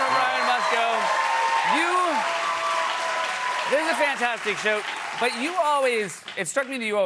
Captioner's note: cheers